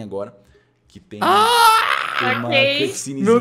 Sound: screams

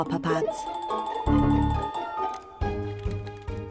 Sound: computer dinging

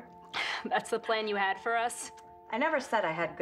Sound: laughs

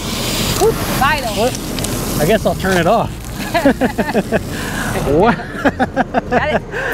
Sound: both laugh

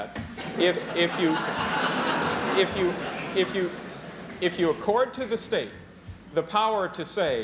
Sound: laughter

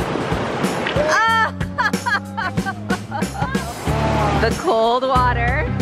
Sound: laughs; exclaims

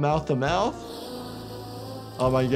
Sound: air rushing

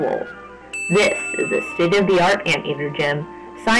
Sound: ding Sound Effect dot MP3

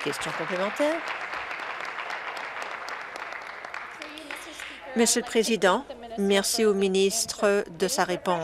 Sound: applause

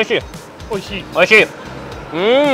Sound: speaks in foreign language

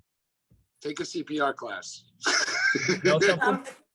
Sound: laughs

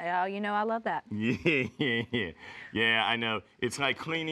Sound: laughs

